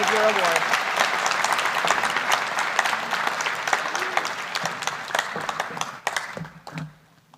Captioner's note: applause